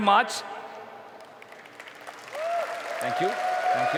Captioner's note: applause